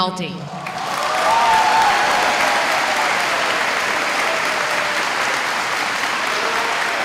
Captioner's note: applause